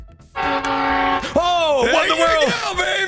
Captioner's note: train toot-toot